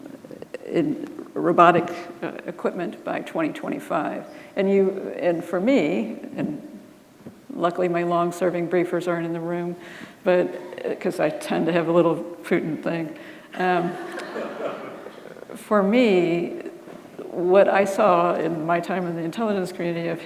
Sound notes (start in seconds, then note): 13.7 audience laughing